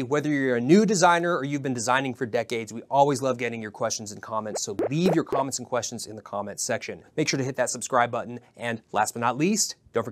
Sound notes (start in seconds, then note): 4.5 bubbles pop